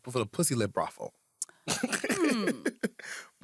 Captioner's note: chuckles